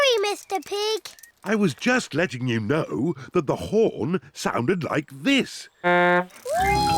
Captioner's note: honks horn